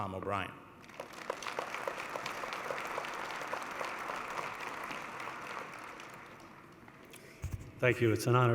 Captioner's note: applause